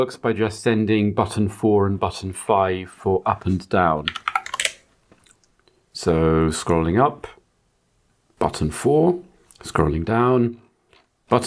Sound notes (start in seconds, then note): 5.5 blank Audio